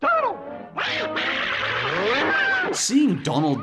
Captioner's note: insane yelling